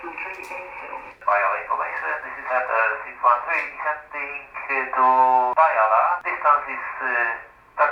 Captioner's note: Radio call from Boing 738